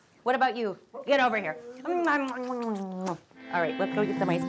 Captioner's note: smooching loudly